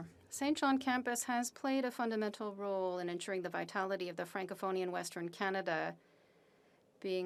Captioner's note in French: voix de l'interprète